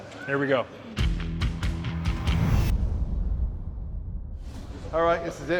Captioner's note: upbeat music; scene swooshing